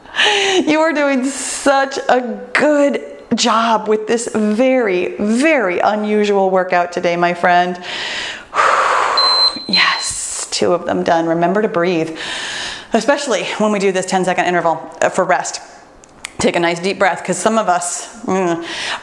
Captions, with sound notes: You are doing such a good job with this very, very unusual workout today, my friend. (breathes deeply) (timer beeps) Yes, two of them done. Remember to breathe, especially when we do this 10-second interval for rest. Take a nice deep breath 'cause some of us